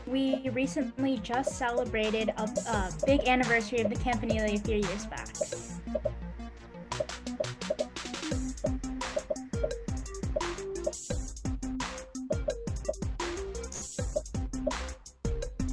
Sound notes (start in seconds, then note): 5.5 popping; 5.5 upbeat music